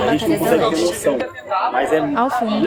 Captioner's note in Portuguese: barulho da plateia se dispersando ao fundo